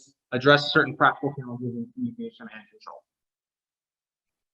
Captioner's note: audio distortion